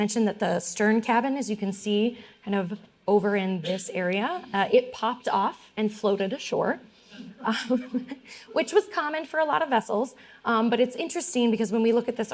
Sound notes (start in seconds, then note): 7.2 laughing; 7.5 audience murmuring